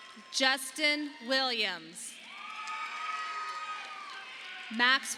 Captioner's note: audience applauding